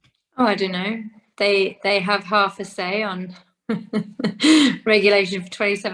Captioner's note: chuckles